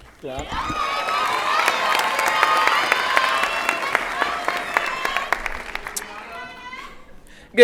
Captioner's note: applause and Cheering